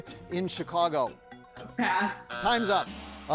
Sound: buzzer buzzing

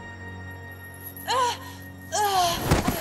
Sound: groaning

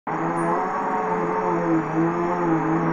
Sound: vacuuming

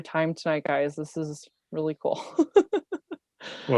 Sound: laughs

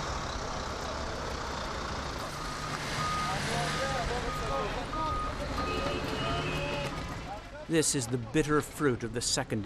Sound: background noise: traffic

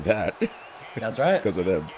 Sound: laugh

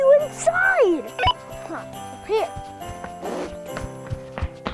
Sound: beeping

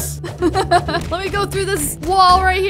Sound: laughs

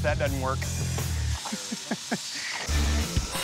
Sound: chuckles

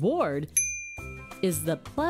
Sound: bell dings

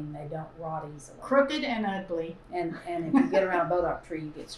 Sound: laughs

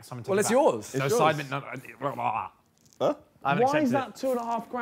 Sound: group chattering

